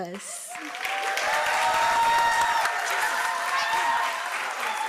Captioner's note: applause